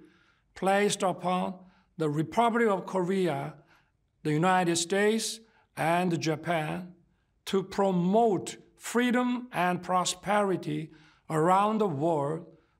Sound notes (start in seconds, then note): none